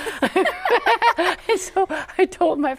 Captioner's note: both laugh